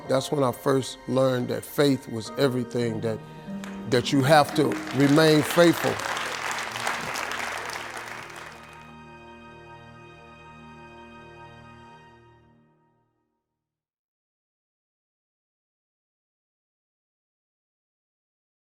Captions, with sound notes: That's when I first learned that faith was everything, that you have to remain faithful. (audience clapping) (soft music)